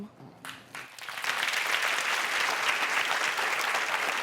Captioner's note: crowd applauds